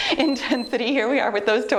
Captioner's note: timer beeps